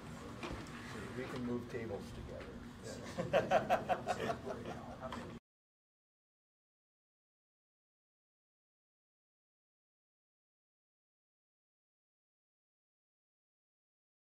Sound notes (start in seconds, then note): 3.0 laughs